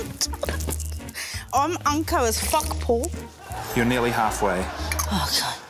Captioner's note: laughs; laughter